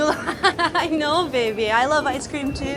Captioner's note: laughing